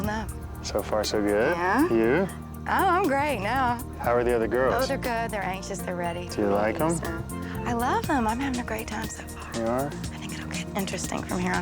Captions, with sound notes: it's all I ask for, and I got it. (shimmering tone) (upbeat music) - Laura.